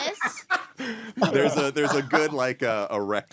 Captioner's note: laughing